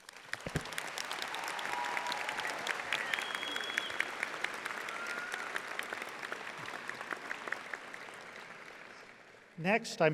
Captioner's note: audience applauding